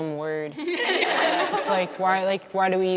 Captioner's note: laughter